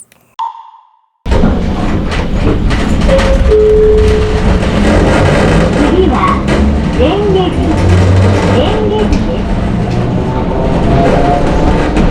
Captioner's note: sound of the hanging motor